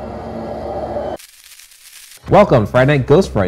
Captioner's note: eerie chiming; crackling static